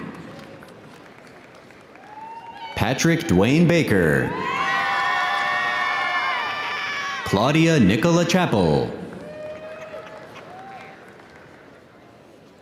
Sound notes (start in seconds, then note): 0.0 audience applauding; 1.8 audience cheering